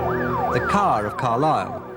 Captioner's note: sirens wailing